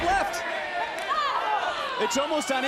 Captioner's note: crowd chants "kayden"